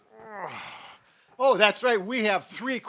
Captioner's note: groans